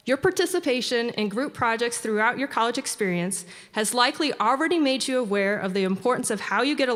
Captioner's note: none